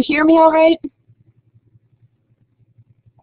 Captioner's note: silence